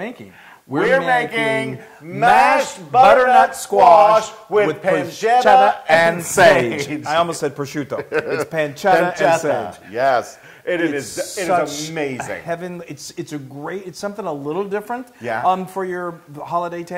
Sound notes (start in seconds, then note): 7.8 laugh